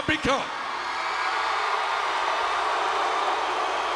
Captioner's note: crowd cheering